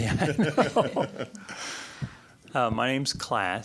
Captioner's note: both laughing